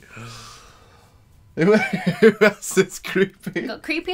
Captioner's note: laughing